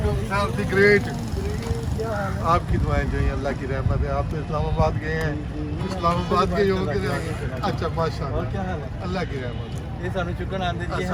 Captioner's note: speaking local language